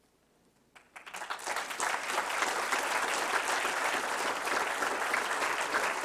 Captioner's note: applause